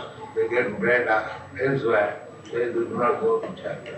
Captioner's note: none